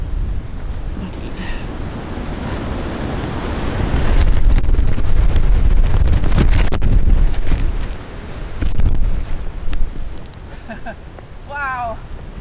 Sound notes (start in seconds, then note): 3.9 wind & rain; 10.4 chuckles